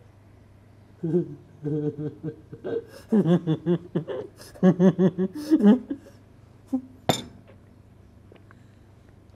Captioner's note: laughs